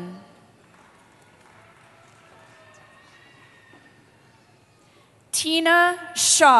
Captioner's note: applause